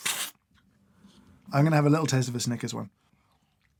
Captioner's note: slurp